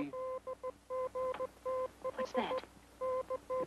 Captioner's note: electronic beeping